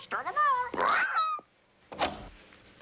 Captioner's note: squawking